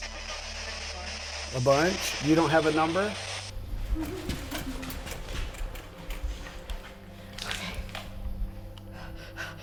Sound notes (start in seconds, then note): 0.0 spirit box voice; 3.6 running